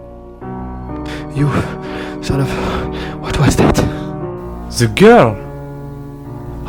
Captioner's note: hardly breathing